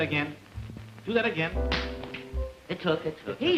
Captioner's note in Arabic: صفعة باليد